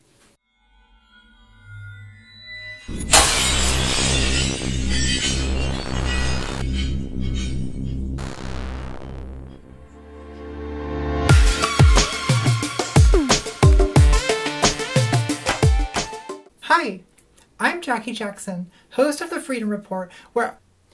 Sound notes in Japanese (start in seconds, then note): 2.8 ガラスの砕ける音